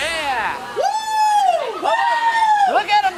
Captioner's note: cheering